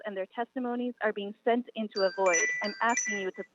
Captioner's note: chime